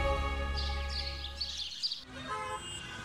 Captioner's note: birds chirping